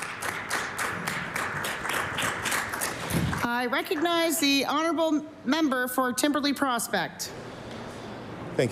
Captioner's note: applause